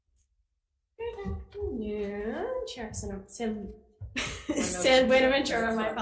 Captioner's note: chuckling